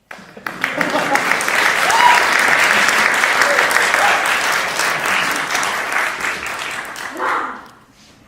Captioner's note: applause